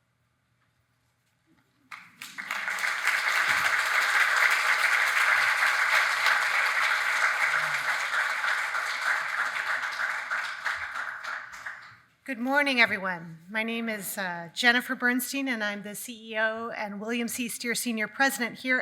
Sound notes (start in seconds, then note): 2.2 audience clapping